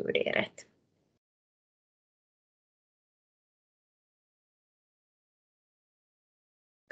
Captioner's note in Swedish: Tystnad